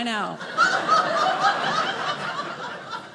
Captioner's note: audience laughing